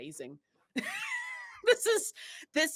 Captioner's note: laughs